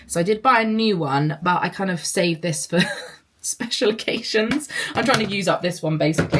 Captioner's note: laughs